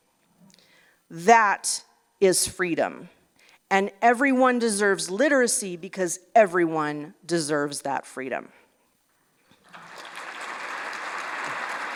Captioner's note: applause